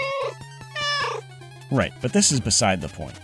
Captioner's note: meow